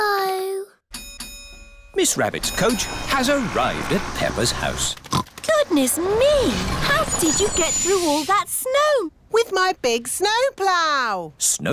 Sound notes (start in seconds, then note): 0.9 coach bell dings; 5.0 oinks